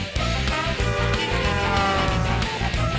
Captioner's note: honking